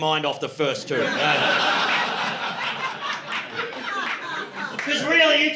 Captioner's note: laughter